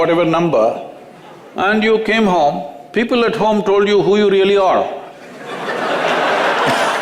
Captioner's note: laughter